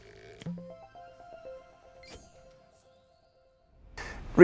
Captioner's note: playful chime